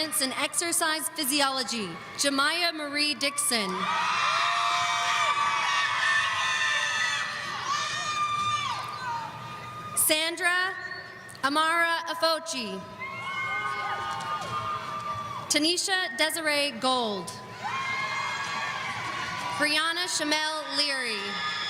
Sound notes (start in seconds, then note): 3.8 audience cheering; 13.1 audience cheering